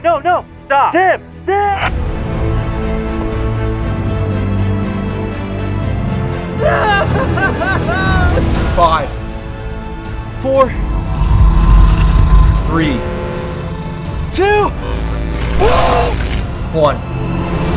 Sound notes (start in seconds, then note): 1.5 clicks; 6.5 sobbing; 15.3 grunting